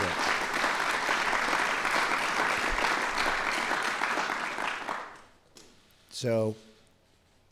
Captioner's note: applause